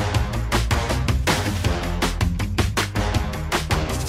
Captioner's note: none